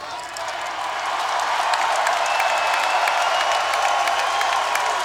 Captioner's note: crowd cheers and claps